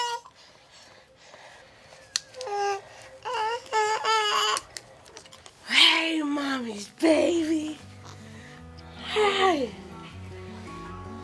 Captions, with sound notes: [ baby noises ] Hey mommy’s baby! Hey!